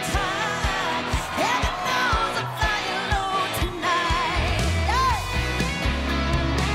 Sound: audience cheering

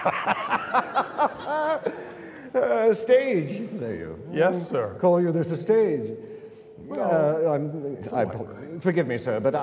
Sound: laughter

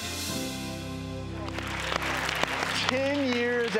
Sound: audience applause

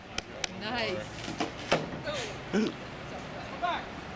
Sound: wood cracking and popping; gasps

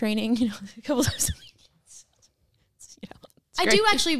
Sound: laughs

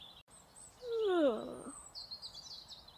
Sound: yawning

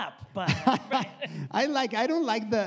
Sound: laughs

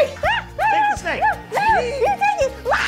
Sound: exclaiming

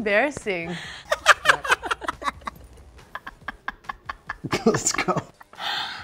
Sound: hysterical laughter

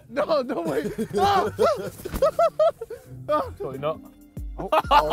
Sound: JJ grunts

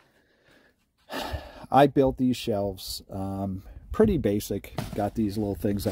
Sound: breathes audibly

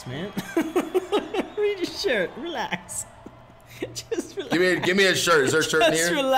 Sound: laugh

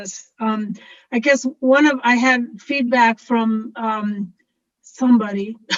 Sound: laughs

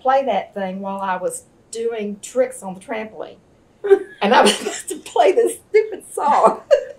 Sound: laughter

